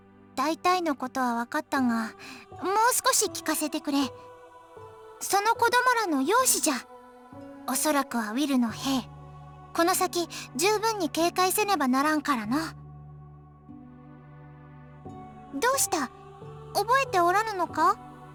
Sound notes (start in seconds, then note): 14.1 silence